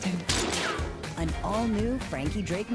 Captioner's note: gunshot